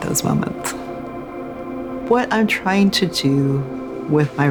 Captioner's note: wind gusting